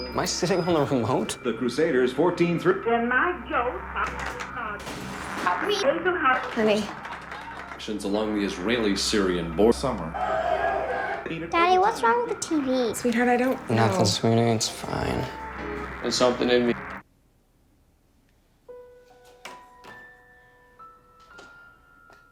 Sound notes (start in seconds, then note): 2.8 static crackling; 9.9 crowd on TV clamoring; 17.8 ominous soft piano music